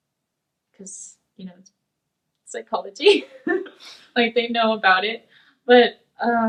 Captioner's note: laughs